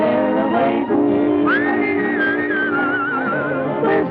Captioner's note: whistling; singing